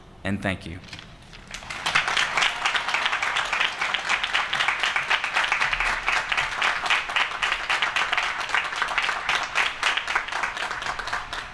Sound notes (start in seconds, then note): 1.8 applause